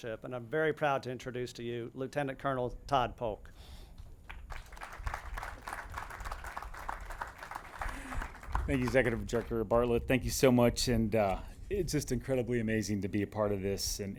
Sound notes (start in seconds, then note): 4.2 audience claps